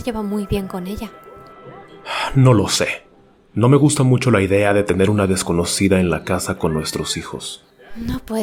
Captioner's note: sigh